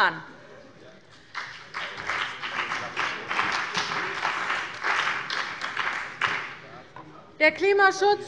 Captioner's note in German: Beifall bei der CDU und dem BÜNDNIS 90/DIE GRÜNEN